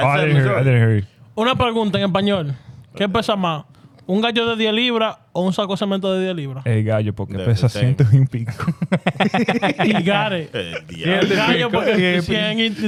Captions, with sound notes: I didn't hear you. I didn't hear you. (Speaking In Foreign Language) (Laughing) You got it. (Speaking In Foreign Language)